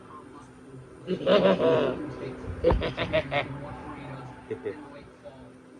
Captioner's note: laughs